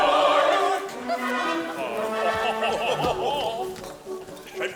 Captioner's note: laughing